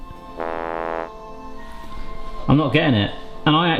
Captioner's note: fail trombone honks